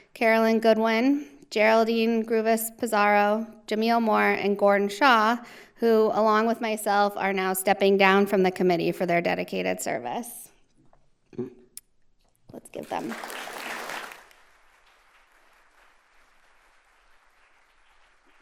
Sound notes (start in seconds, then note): 12.8 audience applauding